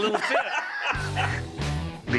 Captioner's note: laughs